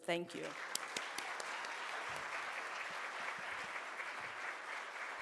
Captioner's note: audience applauds